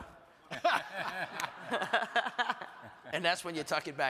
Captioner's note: everyone laughs